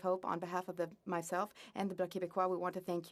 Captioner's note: speaking French